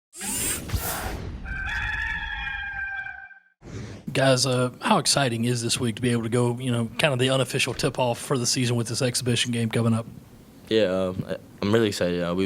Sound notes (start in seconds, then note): 1.4 rooster crows